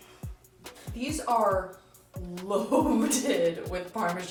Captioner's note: laughs